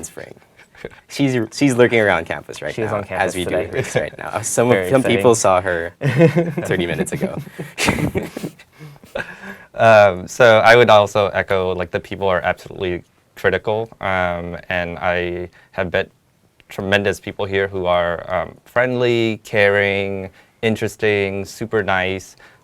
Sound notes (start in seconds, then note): 0.4 laugh; 5.9 laugh